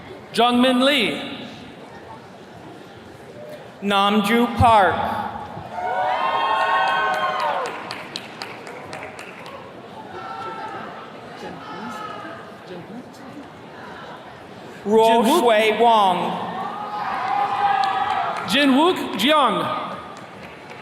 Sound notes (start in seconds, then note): 5.6 attendees cheering; 15.8 attendees cheering; 20.1 attendee clapping